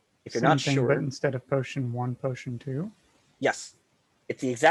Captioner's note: bold Voice